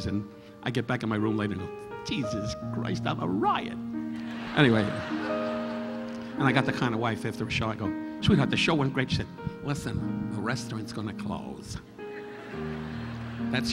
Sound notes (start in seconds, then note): 4.1 audience laughing; 12.1 audience laughing